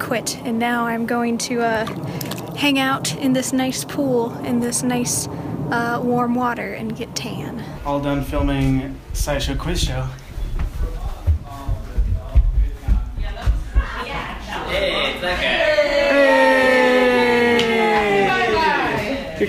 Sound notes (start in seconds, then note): 9.0 feet clunking on the stairs; 12.1 people talking in the background; 18.3 excitedly